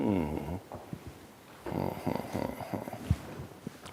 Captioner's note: humming